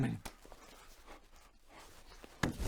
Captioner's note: frantic breathing